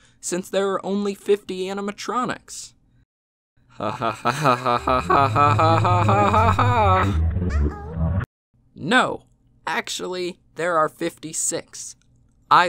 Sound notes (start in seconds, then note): 3.8 louder laughter; 3.8 laughter